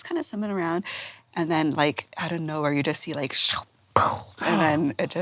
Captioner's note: vocalizes